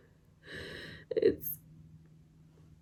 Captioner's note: inhales shakily